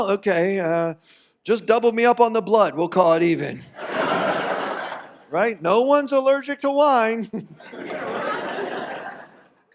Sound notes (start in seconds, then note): 3.7 audience laughs; 7.4 audience laughs